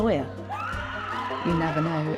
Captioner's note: women screaming